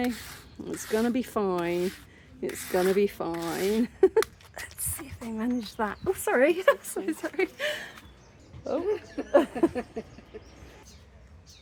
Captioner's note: laughing